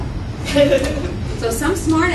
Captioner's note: laughter